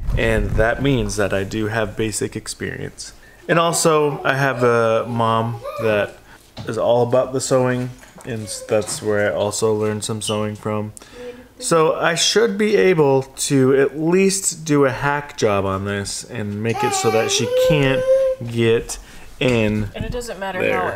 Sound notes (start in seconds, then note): 16.8 vocalizing